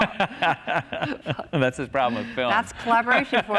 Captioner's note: laughter